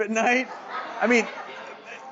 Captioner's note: audience laughing